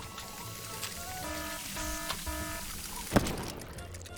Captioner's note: alarm blaring; cupcake exploding